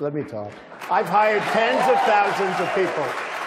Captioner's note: applause